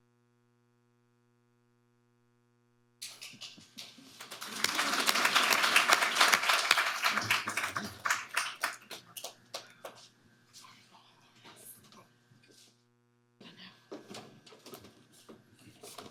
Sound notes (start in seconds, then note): 3.0 audience applauding